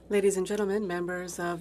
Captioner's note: speaking French